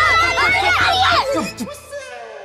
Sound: screaming

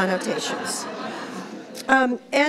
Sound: laughs

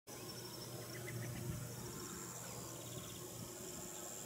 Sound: birds chirping

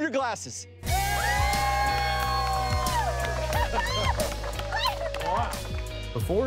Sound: crew cheering; squealing

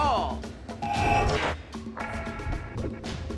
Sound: video game sounds

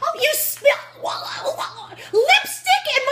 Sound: sputters

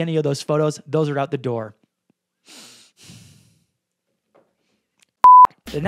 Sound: breathes sharply

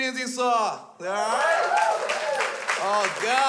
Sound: crowd cheers

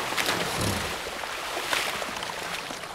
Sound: buffalo grunts

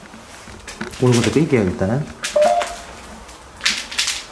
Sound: ghost tube warning sound

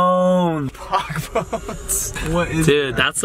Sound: laughs

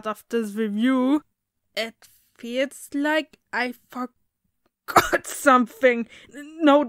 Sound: cough

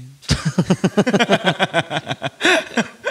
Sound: laughs

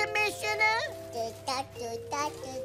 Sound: babbling

